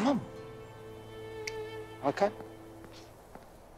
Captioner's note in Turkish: Parmak Şıklatıyor